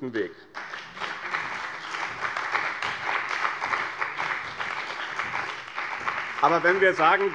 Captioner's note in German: Beifall bei dem BÜNDNIS 90/DIE GRÜNEN und der CDU